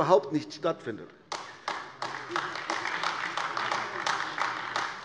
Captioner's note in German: Beifall AfD